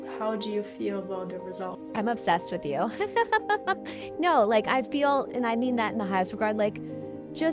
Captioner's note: laughing